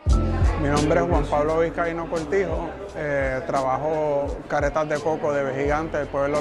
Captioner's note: speaking in foreign language